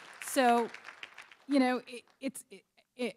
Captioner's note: applause